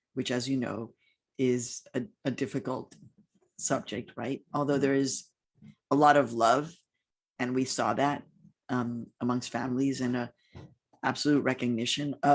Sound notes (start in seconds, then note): none